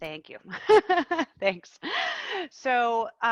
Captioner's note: laughing